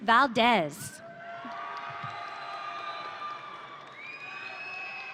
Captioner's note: audience cheering